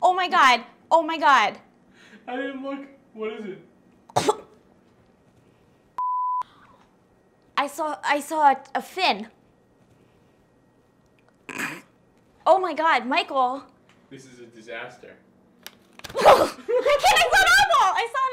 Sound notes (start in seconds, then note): 4.1 coughs; 6.0 beep; 11.5 snorts; 16.1 laugh